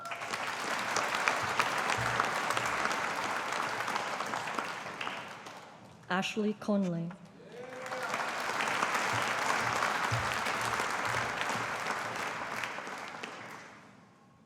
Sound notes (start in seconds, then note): 0.0 audience applauding; 7.4 audience applauding